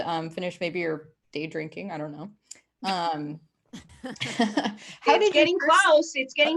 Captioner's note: laughs